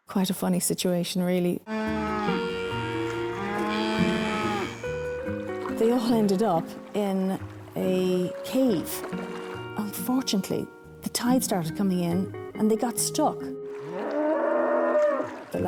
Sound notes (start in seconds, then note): 1.6 cows moo; 13.8 cows moo